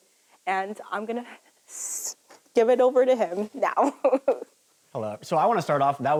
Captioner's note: laughs